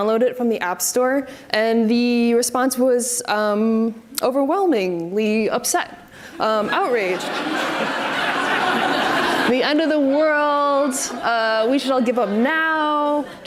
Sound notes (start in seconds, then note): 6.4 audience laughs